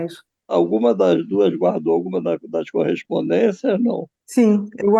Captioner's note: speaks through the computer